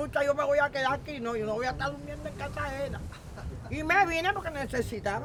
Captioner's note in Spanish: Risas